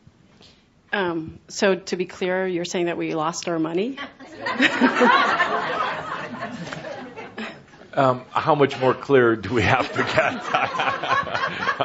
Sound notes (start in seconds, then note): 4.0 laughter; 9.5 laughs